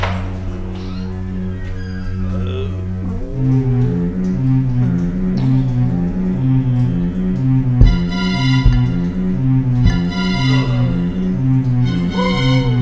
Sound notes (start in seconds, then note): 2.6 crew groaning